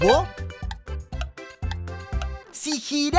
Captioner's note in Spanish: Sonido de reloj